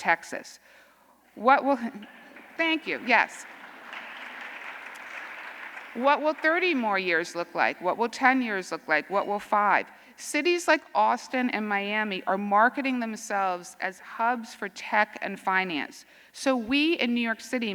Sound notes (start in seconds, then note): 2.0 scattered applause; 4.9 applause